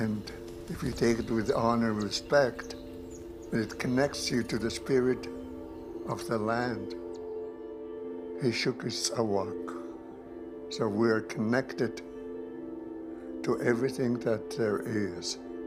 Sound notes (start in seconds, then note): 8.6 speaking in Nuu-chah-nulth